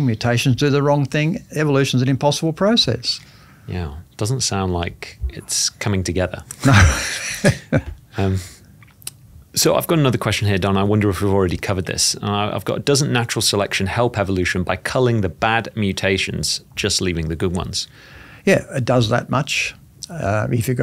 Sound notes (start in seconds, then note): 6.6 laughing